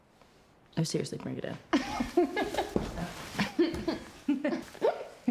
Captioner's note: laughs; Rachel and Claire laugh